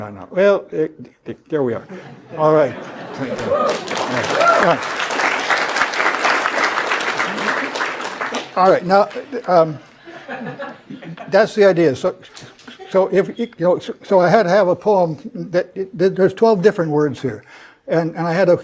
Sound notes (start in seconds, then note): 3.2 applause; 12.0 laugh